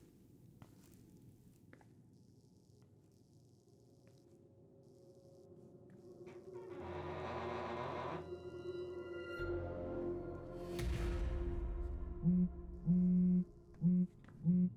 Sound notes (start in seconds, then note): 7.8 door creaking